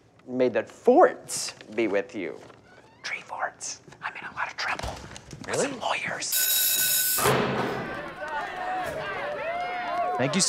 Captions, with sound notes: May the forts be with you. [ Whispering ] Tree forts. I'm in a lot of trouble... -Really? -...with some lawyers.